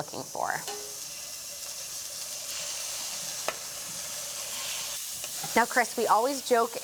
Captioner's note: sizzling